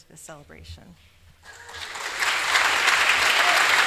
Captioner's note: applause